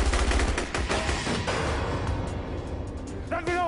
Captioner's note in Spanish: Disparos